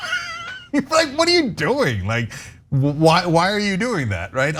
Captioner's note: laugh